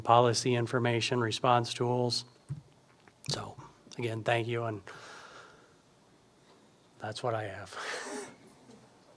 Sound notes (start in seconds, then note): 6.9 chuckles